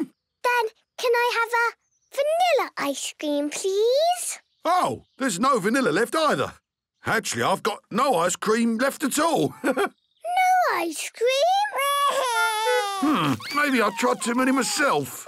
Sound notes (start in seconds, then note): 9.4 chuckles